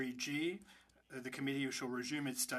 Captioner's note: speaking French